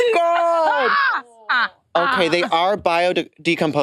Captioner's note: participants laughing